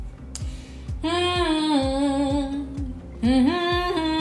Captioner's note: hums